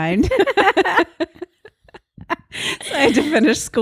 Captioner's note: both laugh